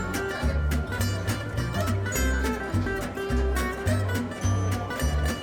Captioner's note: upbeat music; restaurant patrons talking